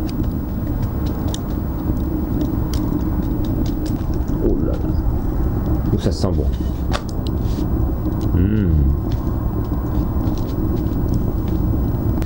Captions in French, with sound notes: Holala... oh ça sent bon! *Mmmm*